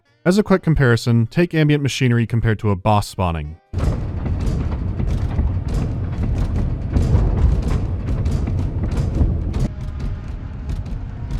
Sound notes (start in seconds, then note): 3.7 low grunting of heavy mechanisms